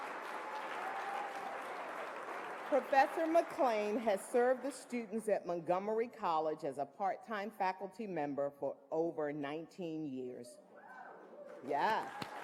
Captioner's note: applause